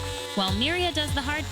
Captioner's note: saw whirring